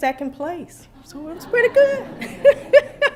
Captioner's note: laughter